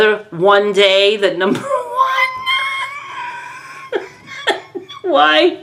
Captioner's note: wheezes